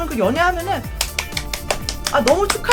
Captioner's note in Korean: 박수